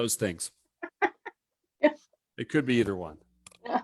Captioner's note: laughs